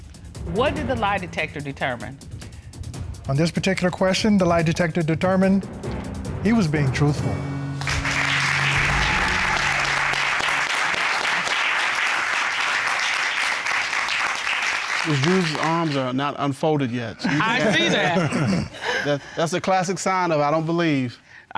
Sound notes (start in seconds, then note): 7.8 applause; 17.2 laughing